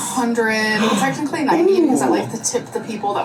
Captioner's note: gasps